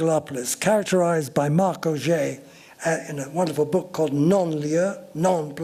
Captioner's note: french